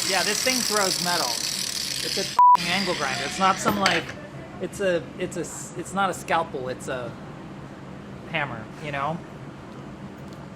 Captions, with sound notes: - Yeah, this thing throws metal. It's a [beeps] angle grinder. It's not some like, it's not a scalpel, it's a hammer, you know?